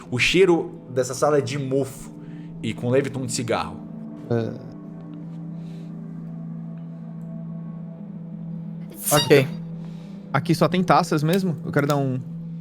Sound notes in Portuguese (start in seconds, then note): 8.9 Atchim